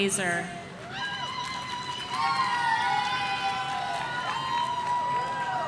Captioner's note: audience cheering